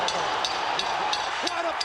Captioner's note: bell dings